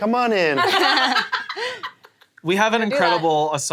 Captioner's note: all laughing